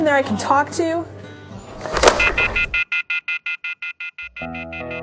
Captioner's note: sound of phone disconnect